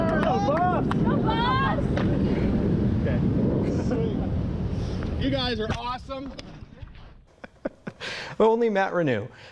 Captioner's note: cheers and applause